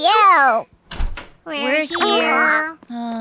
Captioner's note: door opens